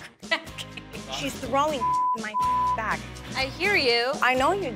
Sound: beep

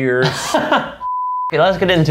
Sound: laughing

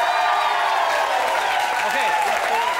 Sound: audience cheers

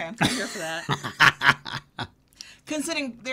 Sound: laughs

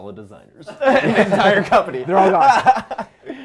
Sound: laughing

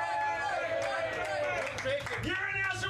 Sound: audience cheering

